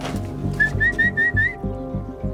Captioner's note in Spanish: Silbidos